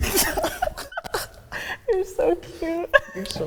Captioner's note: laughing